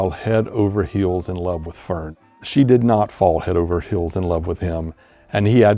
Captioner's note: none